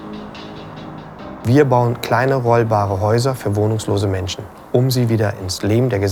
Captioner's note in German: leise Musik; männliche Stimme